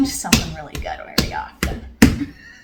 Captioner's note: thump thump